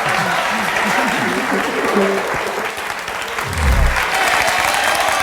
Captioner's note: audience applauding